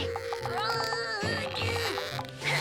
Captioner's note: suspenseful music; Milo grunting